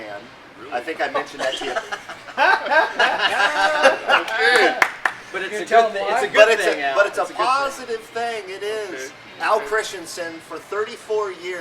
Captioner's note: laughing